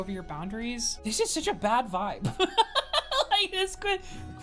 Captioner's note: laughs